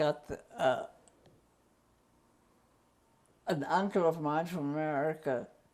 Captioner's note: pauses for 3 seconds